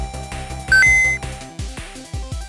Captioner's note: ding!